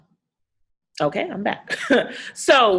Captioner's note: chuckles